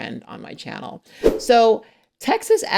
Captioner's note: graphic whooshes